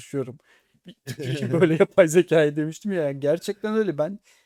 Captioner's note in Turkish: kahkaha